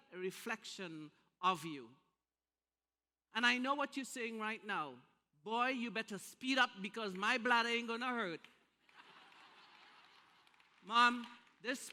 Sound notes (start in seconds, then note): 8.9 laughter